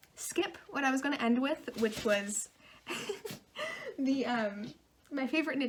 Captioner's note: laughing